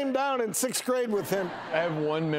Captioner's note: laughing